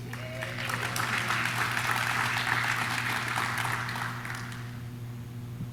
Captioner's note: audience cheers; audience claps